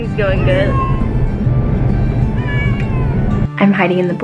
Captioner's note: kitten meowing